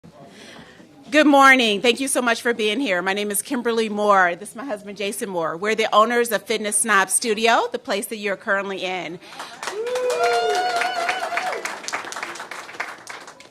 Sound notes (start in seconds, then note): 1.1 cheers and applause